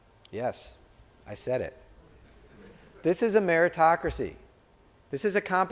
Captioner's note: laughter